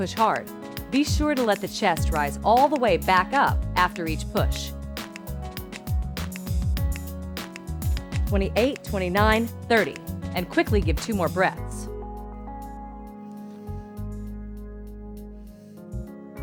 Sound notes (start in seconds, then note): 11.4 blowing